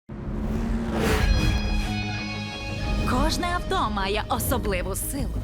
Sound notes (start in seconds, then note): 0.2 engines revving; 0.2 exciting music playing